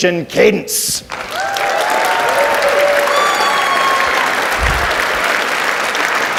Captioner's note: audience cheers and applauds